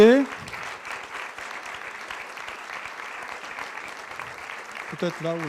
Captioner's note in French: applaudissements